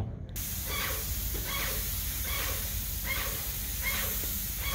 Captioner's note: sprayer spraying